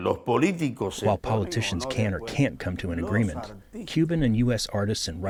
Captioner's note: through translator